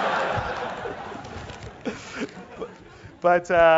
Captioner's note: laugh